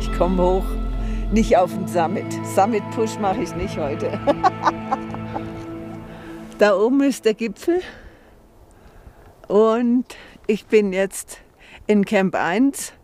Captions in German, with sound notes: Ich komm hoch, nicht auf den Summit. Summit-Push mache ich nicht heute. (Herzliches Lachen) Da oben ist der Gipfel. Und ... ich bin jetzt ... in Camp eins ...